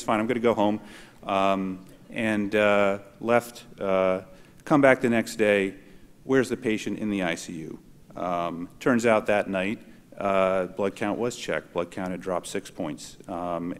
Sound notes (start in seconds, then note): none